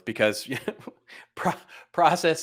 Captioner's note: laughing